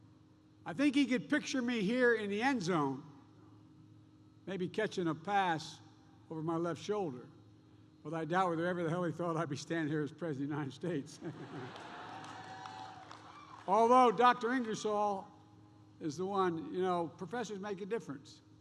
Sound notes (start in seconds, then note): 11.2 laughs; 11.4 applause